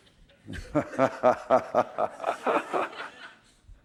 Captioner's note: laughter